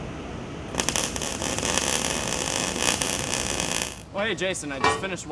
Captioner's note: welding crackling